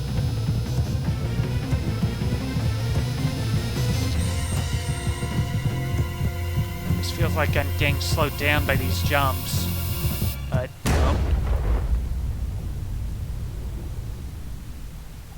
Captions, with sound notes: This feels like I'm getting slowed down by these jumps. But, *gunshot*